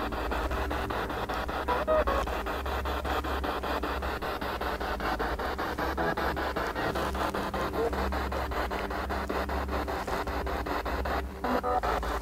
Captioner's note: noise of the spiritbox in the background